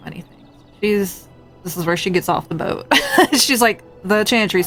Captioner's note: laughs